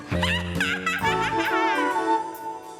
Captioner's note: witch laughing; lively music